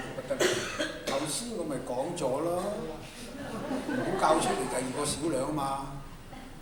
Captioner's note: Cantonese